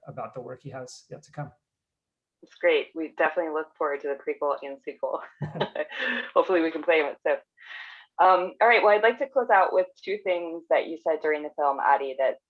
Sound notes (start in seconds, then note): 5.2 laughs